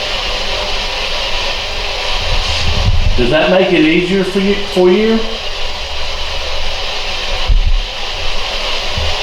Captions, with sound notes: (static) Does that make it easier for you?